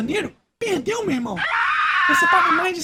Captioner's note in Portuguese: Grito